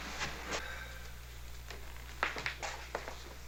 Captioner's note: breathing heavily